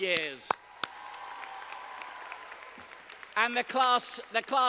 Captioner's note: audience applauding